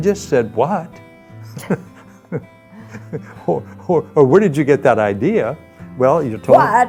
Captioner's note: laughing